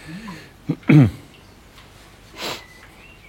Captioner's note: clearing his throat, sniffling